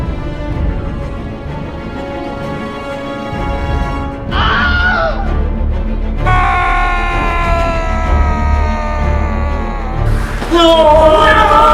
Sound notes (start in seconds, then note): 4.3 Wilhelm Scream